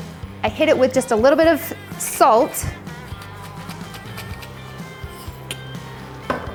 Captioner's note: grinder grinds